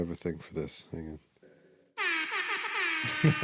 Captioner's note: horn honking; laughing